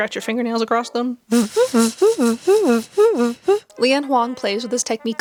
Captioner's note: badly mimicking the sound of nails on lenticular plastic